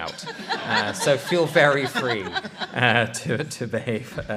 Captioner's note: laughter